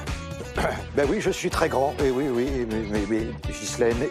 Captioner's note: ahem